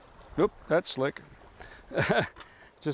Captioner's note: laughter